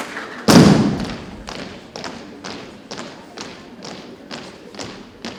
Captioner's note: audience cheering and applauding; rhythmic thumping continues